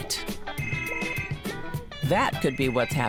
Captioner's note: phone rings